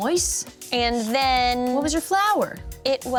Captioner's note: none